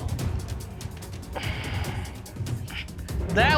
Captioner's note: sighs